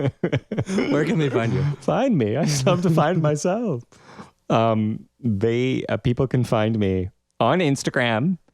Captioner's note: laugh